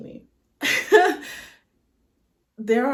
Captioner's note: exasperated huff